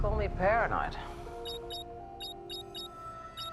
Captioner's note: beeping